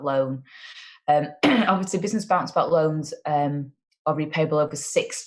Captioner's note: coughs